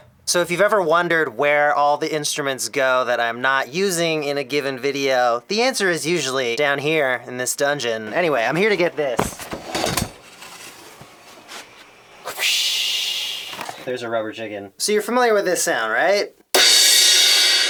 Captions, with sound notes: So if you've ever wondered where all the instruments go that I'm not using in a given video The answer is usually down here in this dungeon Anyway, I'm here to get this *wha-psshhhhh* There's a rubber chicken So you're familiar with this sound, right? *Insanely loud cymbal crash*